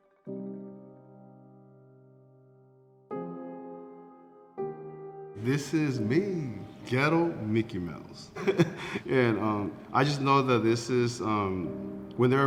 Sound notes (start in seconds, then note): 0.3 soft piano music; 8.3 chuckles